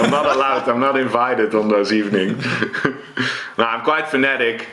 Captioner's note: laughs; chuckles